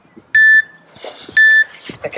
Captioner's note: beep